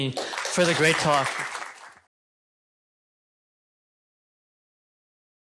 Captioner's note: applause